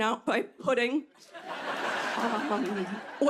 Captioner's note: laughter